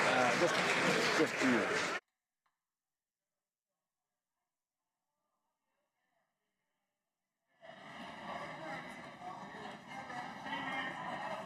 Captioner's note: some Applause